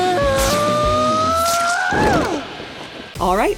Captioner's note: screaming